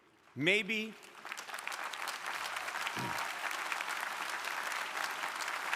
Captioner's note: crowd applauding